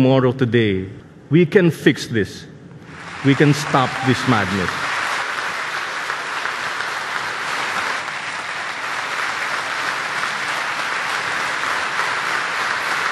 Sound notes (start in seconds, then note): 2.8 applause